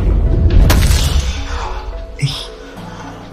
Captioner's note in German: Aufbauend tiefer Whoosch Sound Effekt; Aufprallgeräusch, Mann ringt nach Luft